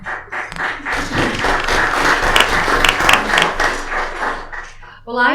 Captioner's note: applause